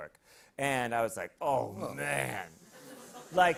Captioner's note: hissing